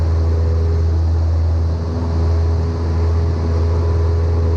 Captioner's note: plane buzzing